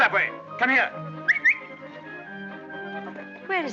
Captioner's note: maxim whistles